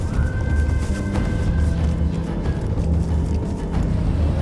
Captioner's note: tribal calls